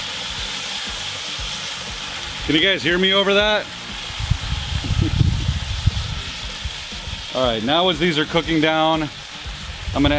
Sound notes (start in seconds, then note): 3.5 pan simmering; 4.8 man laughs